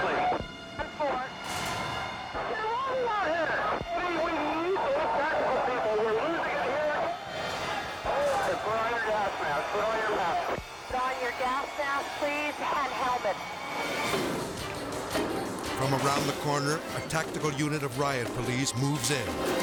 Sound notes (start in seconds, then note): 6.6 people clamoring; 14.2 baton banging